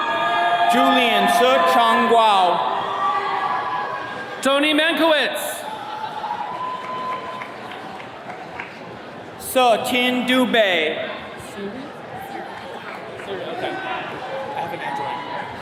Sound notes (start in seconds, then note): 3.3 attendees cheering; 6.3 attendees clapping